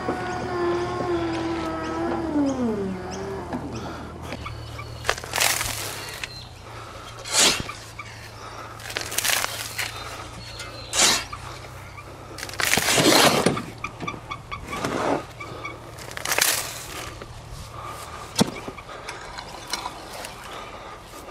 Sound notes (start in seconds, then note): 4.3 engine ceases; 5.4 soil crunches; 10.9 soil continues to crunch; 14.0 wheelbarrow squeaks; 18.4 rake shuffles